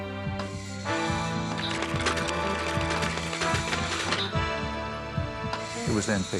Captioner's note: dramatic music; tools clicking